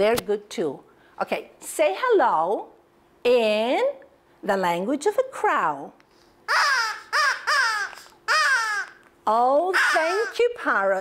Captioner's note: crow puppet sounds